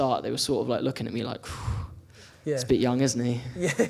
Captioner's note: exhales; laughs